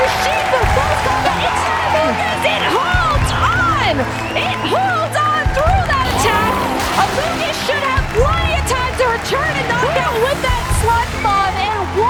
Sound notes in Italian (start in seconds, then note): 5.7 applausi di sottofondo